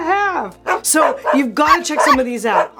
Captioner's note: dogs barking